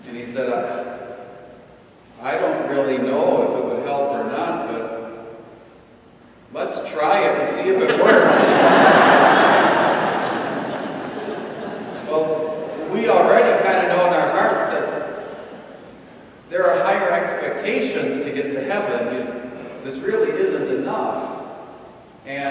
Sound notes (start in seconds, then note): 7.6 audience laughing